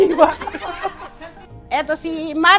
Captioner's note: laughs